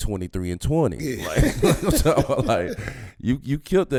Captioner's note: laughs